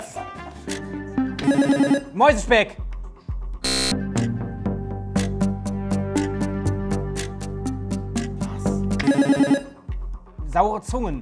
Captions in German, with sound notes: (Buzzer) Mäusespeck. (Angespannte Musik) (Buzzer) Saure Zungen.